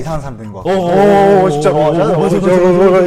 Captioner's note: fussing